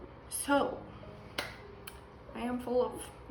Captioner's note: claps